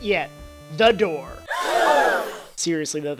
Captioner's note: crowd Gasps